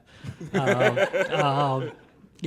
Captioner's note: laughter